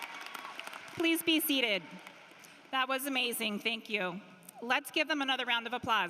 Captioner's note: cheering and applause